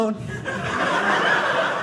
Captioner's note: audience laughing